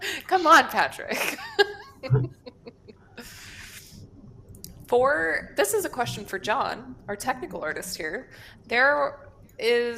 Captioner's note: laughs